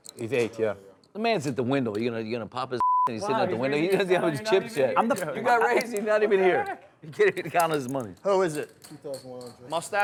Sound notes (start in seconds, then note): 5.5 voiceover; 8.6 voiceover